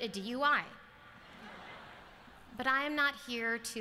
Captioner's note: laughter